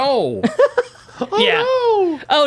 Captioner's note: laughing